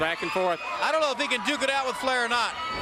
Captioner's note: crowd cheering